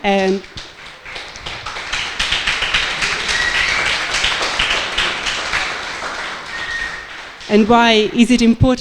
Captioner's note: applause